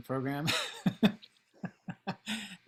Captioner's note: laughs